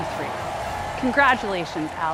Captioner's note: audience cheering